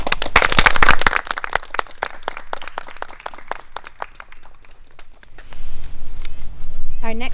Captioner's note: applause